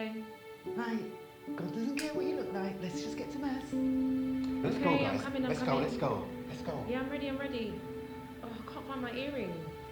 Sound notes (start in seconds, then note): 2.0 light switch flicking